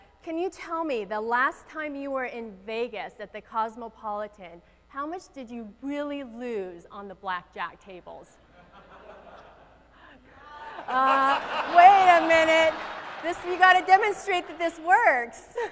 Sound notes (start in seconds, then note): 10.4 audience laughs